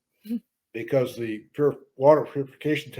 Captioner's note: stoner laughs